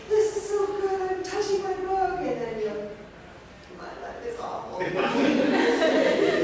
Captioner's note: laughter